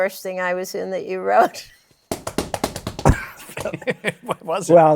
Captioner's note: laughs, patters feet